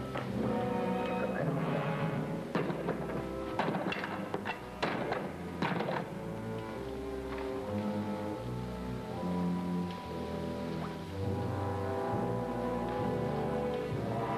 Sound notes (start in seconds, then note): 3.4 wood clunking; 11.7 tense music